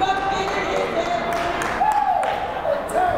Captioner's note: yelling; cheering